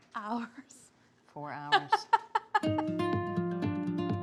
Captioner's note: laughs; mellow music